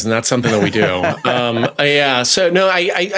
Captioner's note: laughs